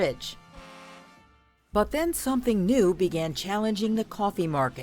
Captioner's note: ship horn honks